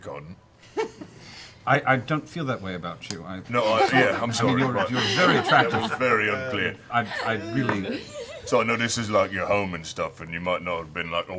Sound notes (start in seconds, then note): 3.6 laughter